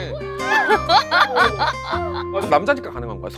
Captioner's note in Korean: 웃겨서 숨 넘어감